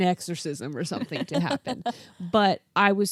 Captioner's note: laughs